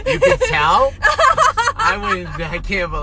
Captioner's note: laughs